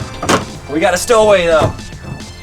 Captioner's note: crash